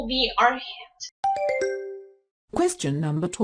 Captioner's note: question ding